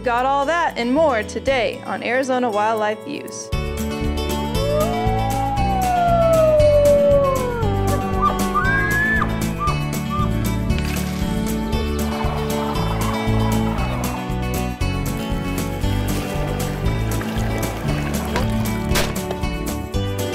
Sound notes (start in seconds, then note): 4.2 wolf howling; 7.3 elk bugling; 18.3 gunshots